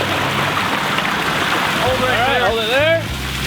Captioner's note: water bubbling; truck engine revving; water sploshing; male Voice